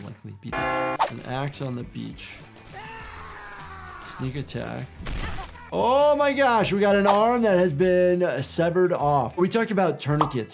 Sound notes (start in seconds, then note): 0.3 bell dings; 2.7 character screaming